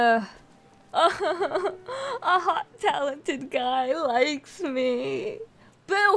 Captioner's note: crying